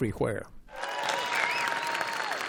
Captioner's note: cheering